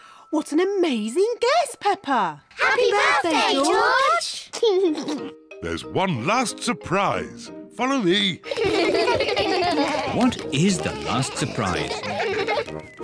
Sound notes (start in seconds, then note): 4.6 laughs; 8.4 kids laugh